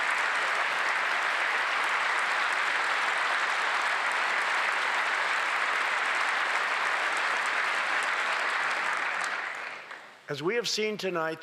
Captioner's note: applause